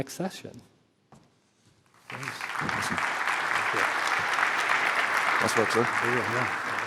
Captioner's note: applause